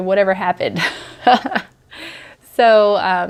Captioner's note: laughs